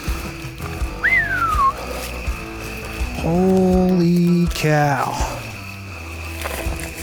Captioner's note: whistles